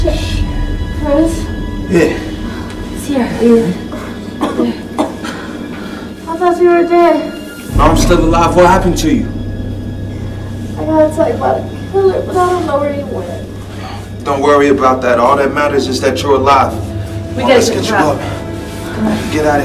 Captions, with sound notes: Oh, shit. Chris? - Yeah. (Ciara coughs) - I thought you were dead. - I'm still alive, what happened to you? - I got attacked by killer, but I don't know where he went. - Don't worry about that. All that matters is that you are alive. - We gotta get you up.